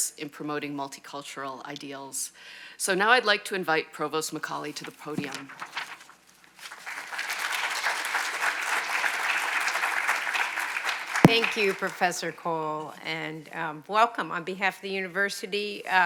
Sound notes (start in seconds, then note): 6.6 audience applauds